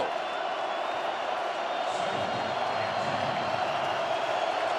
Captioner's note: cheering